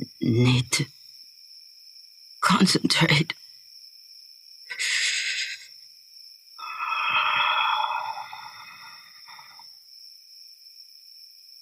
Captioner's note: quiet growling